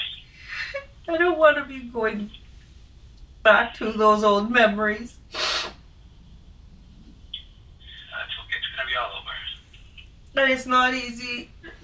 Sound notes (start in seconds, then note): 0.1 sniffles; 5.3 sniffs